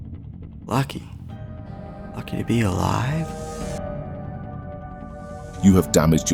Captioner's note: heart beat quickens; creepy music